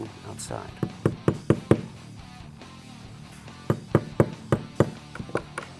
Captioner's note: tapping